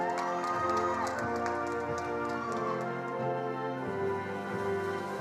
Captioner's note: attendees applauding